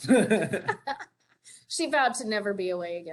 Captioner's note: laughter